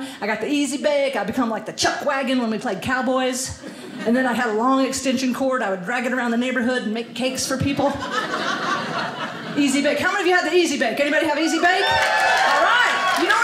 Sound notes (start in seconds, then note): 7.8 audience laughing; 11.4 audience cheering